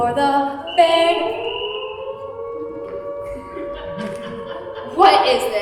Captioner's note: sirens blare, police whistle sounds